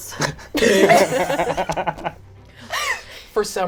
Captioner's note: laugh